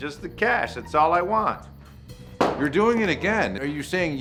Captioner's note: thumping sound